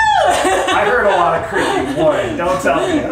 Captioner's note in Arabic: ضحك